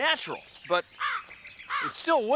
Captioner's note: crow cawing